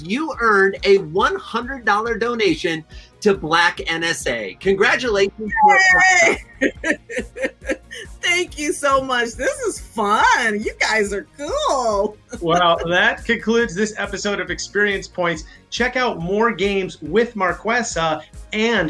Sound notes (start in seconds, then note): 5.5 laughs